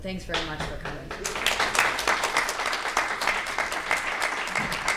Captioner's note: applauding